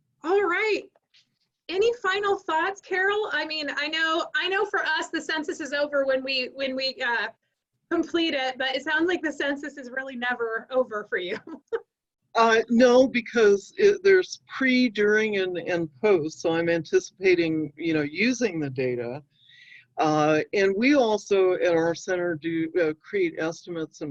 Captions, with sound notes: All right, any final thoughts, Carol? I mean, I know, for us, the census is over when we complete it, but it sounds like the census is never really over for you. (chuckling) - No, because there's pre, during, and post, so I'm anticipating using the data, and we also in our center do create estimates